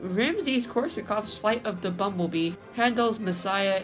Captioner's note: none